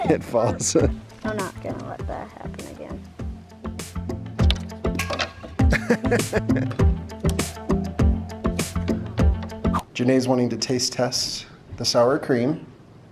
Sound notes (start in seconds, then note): 0.0 all laughing; 0.0 laughs; 4.0 jaunty music; 5.0 wood plank thudding; 5.6 man laughing; 6.8 jaunty music